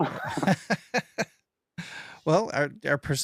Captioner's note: laughs